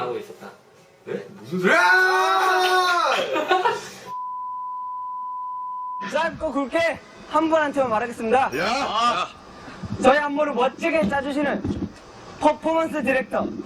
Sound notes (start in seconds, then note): 4.3 laughs